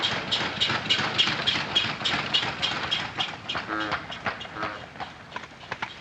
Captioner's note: horn honking